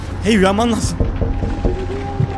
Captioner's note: knock knock